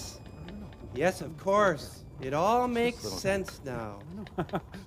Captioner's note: chuckles